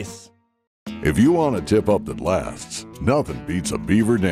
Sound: voiceover

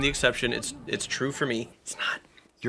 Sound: whispers

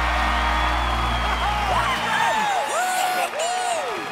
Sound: cheering

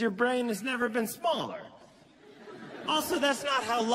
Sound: laughter

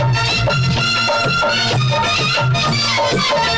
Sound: none

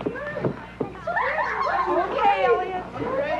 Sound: laughing

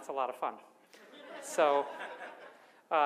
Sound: audience laughs

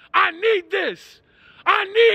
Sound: starts basically screaming

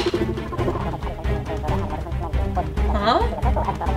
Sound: germs gibbering

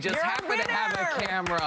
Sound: applause

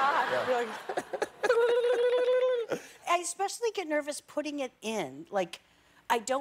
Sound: laughter

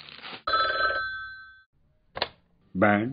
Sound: telephone rings

